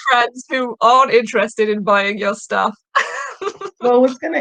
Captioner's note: chuckling